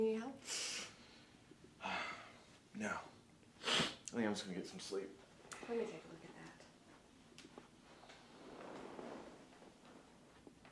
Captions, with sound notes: Do you need any help? - (sighs) No, I think I'm just gonna get some sleep. - Let me take a look at that.